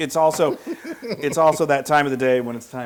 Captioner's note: laugh